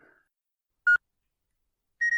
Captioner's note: beep